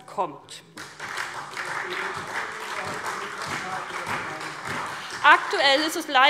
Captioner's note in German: Beifall SPD